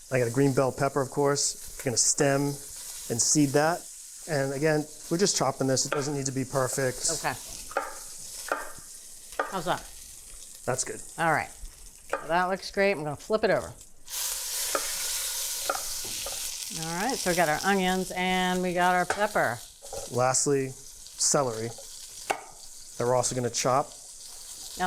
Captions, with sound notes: - I got a green bell pepper, of course. We're going to stem and seed that. And again, we're just chopping this. It doesn't need to be perfect. - Okay. How's that? - That's good. - Alright. Well, that looks great. I'm going to flip it over. (pan sizzling) Alright. So we got our onions and we got our pepper. - Lastly, celery that we're also going to chop.